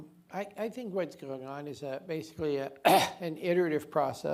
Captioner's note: coughs